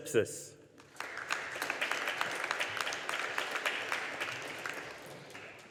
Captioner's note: audience applauding